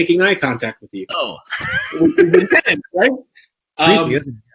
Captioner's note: both laugh